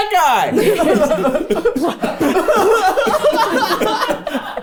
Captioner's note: everyone laughing